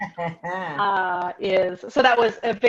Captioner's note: chuckling